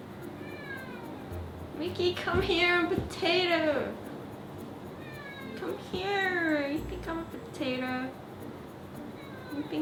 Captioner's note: meow